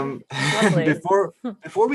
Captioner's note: laughs